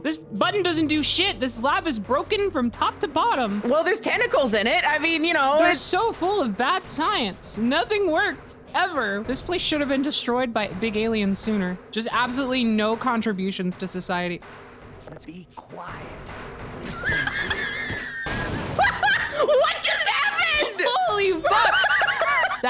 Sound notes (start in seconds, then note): 16.8 laughs; 18.2 explosion; 18.8 laughs; 20.4 both laugh